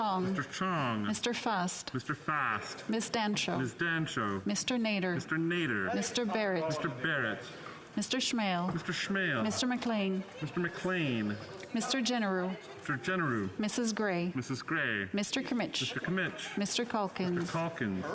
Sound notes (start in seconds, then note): 2.0 calling of recorded vote